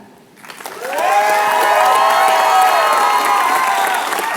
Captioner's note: applause